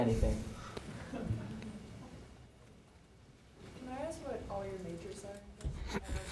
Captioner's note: laugh